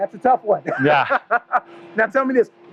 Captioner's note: laughs